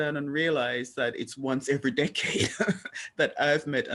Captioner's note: laugh